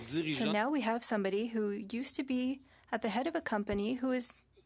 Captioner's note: speaking French